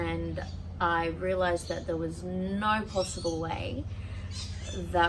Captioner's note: loud birds are loud